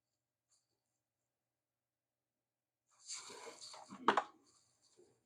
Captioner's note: silence